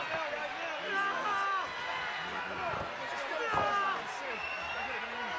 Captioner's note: Zbyszko screaming